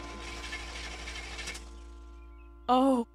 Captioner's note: car sputtering